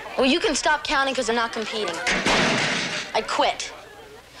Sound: shuts locker

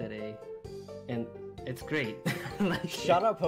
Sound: laughs

